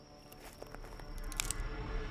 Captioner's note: tense music; gun clicks